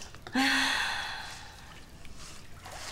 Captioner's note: exhales